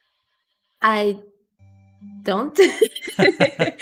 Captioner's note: laughs